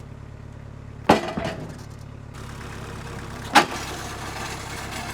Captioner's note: wood slamming down; forks scraping against tarmac